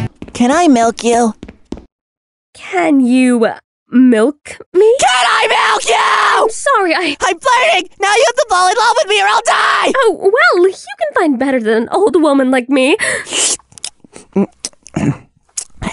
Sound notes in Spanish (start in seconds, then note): 5.0 Gritando; 12.8 Sonidos de lengua